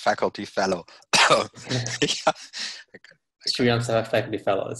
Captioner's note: coughing